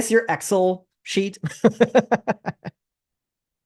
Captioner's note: laughter